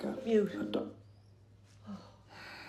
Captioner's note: TV sound cuts out